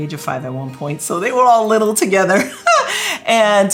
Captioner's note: chuckles